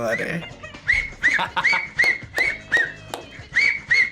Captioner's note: man whistling; laughs